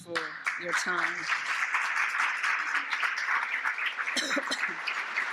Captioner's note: audience applauds